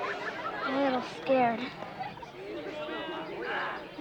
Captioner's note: chatter